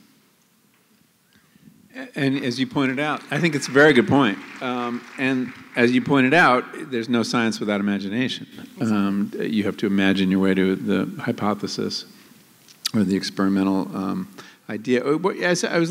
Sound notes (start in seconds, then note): 4.9 applause